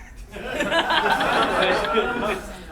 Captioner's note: laughing